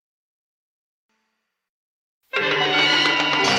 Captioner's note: tires screeching